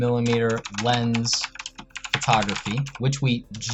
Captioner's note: keyboard keys clicking